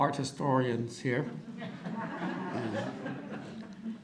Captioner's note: audience laughter